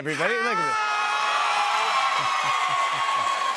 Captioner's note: cheers and applause